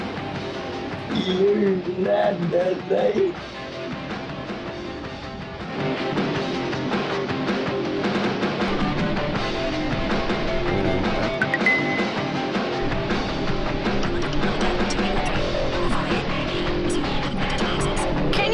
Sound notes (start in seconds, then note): 0.1 loud rock music; 6.5 loud rock music; 11.4 phone notification ding